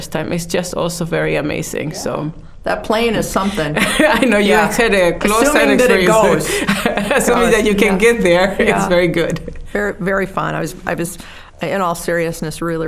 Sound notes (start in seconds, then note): 3.4 laughing